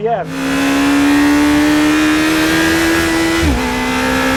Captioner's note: engine roaring